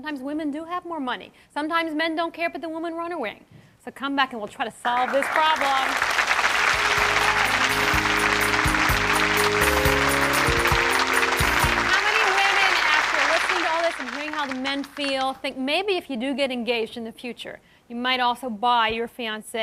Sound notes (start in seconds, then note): 4.8 applause